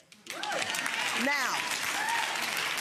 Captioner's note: audience applauding